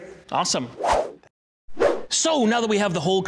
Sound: whooshing

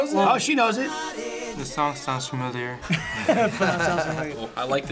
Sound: laughs

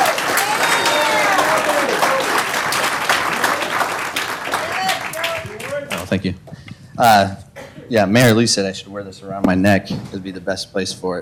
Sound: applause

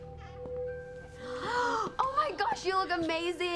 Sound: all gasp

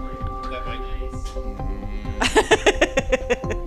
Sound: laughs

